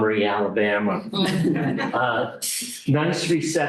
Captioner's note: laughter